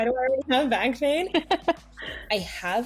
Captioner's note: laughs